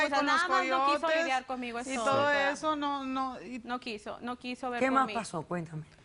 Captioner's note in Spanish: Hablan al unísono